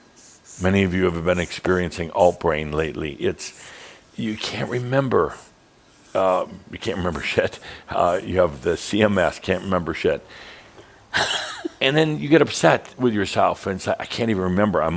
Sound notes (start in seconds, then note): 6.9 Adamus chuckles; 11.1 laughs